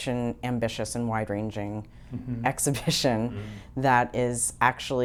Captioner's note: chuckles